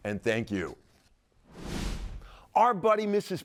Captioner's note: logo whooshing